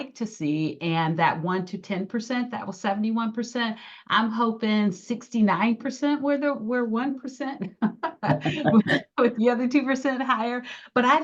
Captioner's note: giggling